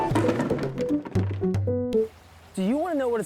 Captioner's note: box rattles